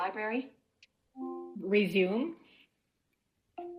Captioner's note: device chimes